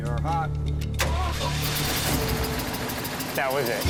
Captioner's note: engine turns over